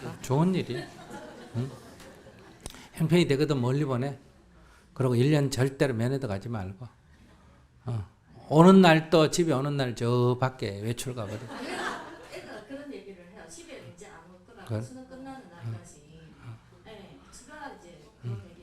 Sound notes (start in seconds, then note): 11.2 audience Laughter